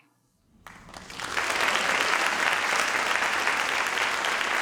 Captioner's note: audience applauds